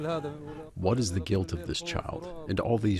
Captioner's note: through translator